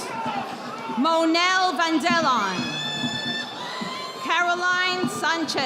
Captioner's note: audience applauding